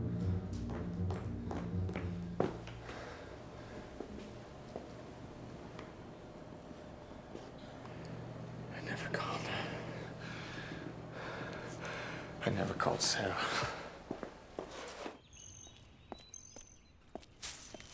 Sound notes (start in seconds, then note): 0.0 suspenseful dramatic music; 0.4 feet clomping; 10.2 pants heavily; 14.3 footsteps departing; 15.6 birds chirping; 15.6 footsteps pattering; 17.7 police tape crinkling